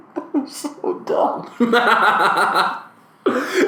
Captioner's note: laughs